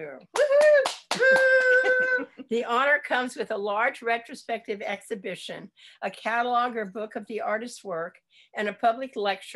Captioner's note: appplause